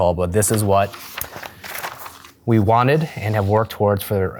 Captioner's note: papers Rustling